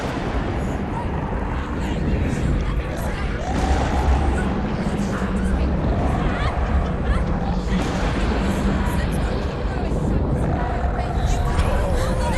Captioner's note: indistinct chatter